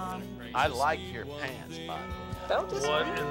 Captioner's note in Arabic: رنين جرس الباب